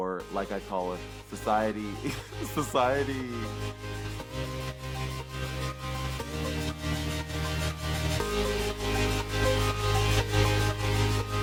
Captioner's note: chuckles